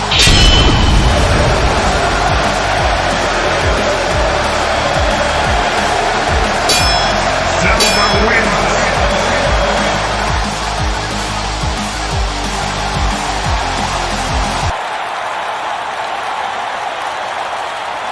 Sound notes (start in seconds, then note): 0.0 explosion booming; 3.0 crowd cheering; 6.7 swords clanging; 9.6 heavy rock music continues; 12.7 crowd cheering